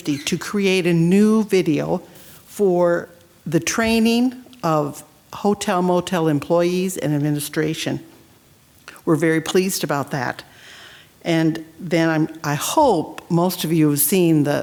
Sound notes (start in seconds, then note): none